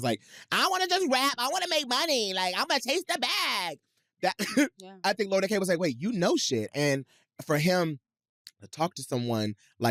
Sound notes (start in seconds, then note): 4.3 chuckles